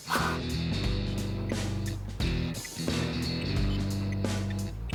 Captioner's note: old school video game beeps